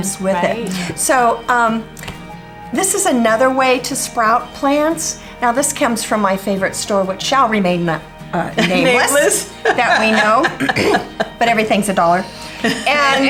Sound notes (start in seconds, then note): 8.5 laughs; 10.6 clears throat; 12.0 laughs